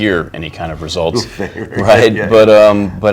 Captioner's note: chuckles